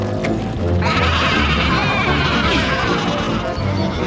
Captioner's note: sheep bleat